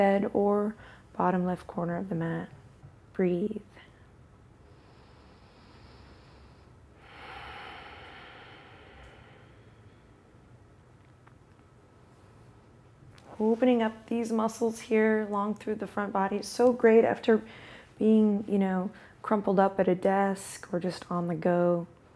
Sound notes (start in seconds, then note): 4.6 slowly inhales and exhales